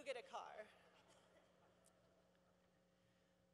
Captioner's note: laughter